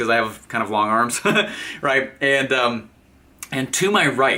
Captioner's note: chuckles